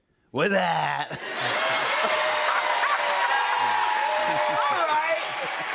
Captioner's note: cheers and applause